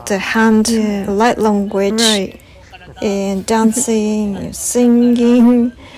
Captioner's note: laughs